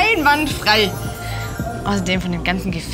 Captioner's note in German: Magische Klänge